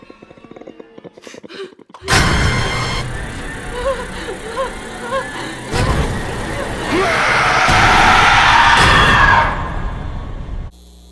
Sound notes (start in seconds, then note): 1.3 WOMAN gasps as the growl continues; 3.0 WOMAN starts to take quick, panicked breaths, mixed with crying; 7.0 MAN WITHOUT FACE screams. WOMAN screams